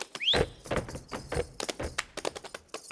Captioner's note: whistling; feet stomping and hands clapping